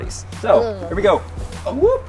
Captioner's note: groan